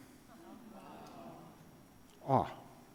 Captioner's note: audience gasp